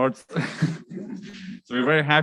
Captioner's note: chuckled